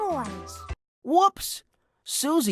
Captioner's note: voiceover